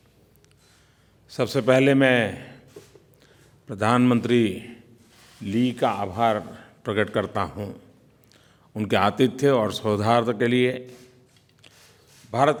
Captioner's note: PM Modi speaks in Hindi